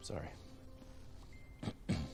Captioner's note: Jonathan clears his throat